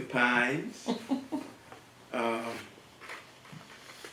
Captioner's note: laugh